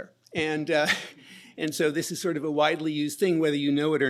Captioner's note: chuckles